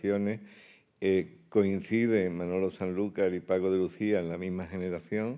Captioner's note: speaking in Spanish